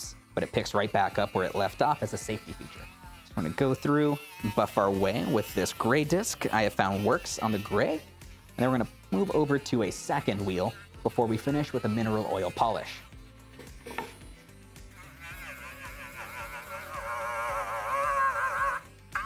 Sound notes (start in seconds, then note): 15.3 sander whirs